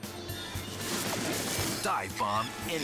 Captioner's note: wings flutter